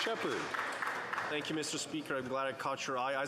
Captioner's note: some Applause